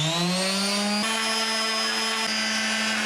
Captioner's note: drilling